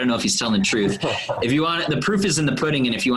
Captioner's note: laughing